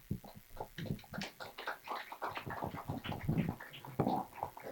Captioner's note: clapping